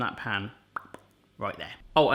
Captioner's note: popping